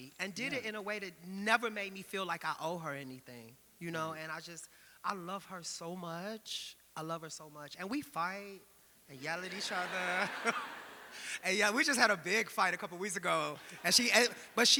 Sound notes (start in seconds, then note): 9.4 audience laughing